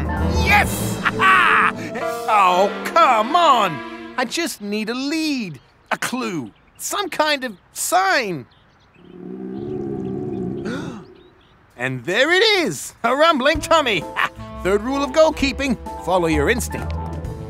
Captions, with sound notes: Yes! (laughs) Oh, come on! I just need a lead. A clue. Some kind of sign. (stomach gurgles) And there it is, a rumbling tummy. Third rule of goal keeping: follow your instinct.